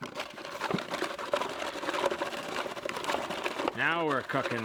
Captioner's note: grinding sound